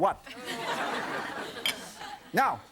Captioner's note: laughter